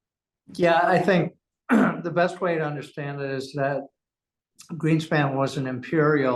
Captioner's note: cough